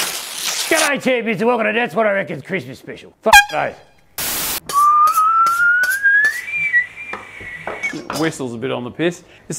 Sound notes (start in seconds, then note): 4.7 whistles